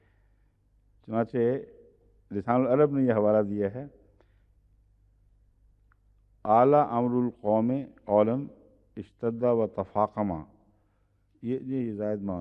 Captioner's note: Arabic